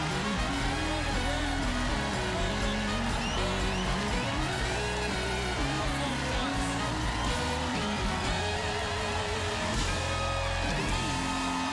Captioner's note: cheers and applause